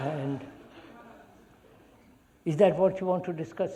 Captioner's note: laughter